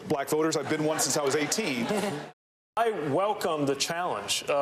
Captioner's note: laughter